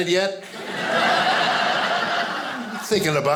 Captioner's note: audience laughing